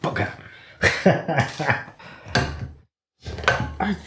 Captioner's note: laffin